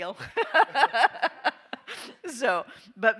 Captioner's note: all laughing